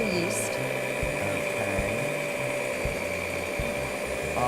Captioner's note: motor humming